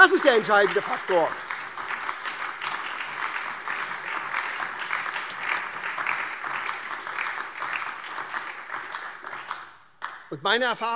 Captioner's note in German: Beifall SPD, Freie Demokraten und DIE LINKE